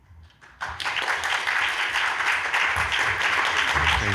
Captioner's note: audience clapping